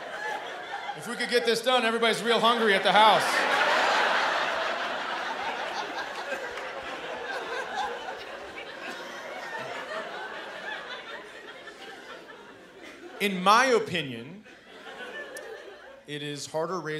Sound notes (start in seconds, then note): 3.4 laughter